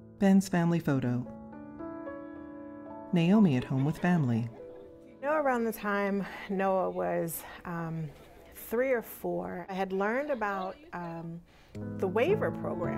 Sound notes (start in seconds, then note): 3.5 laughter